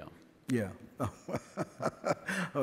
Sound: laughs

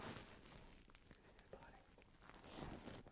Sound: whispering

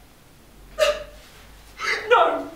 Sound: sobs loudly

